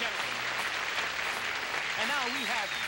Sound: applause

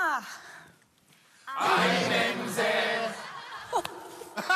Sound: trying hard not to laugh

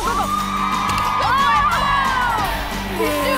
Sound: cheering

